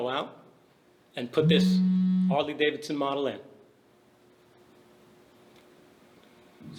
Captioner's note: buzzing